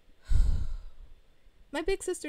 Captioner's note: sigh of overstimulation/sensory overload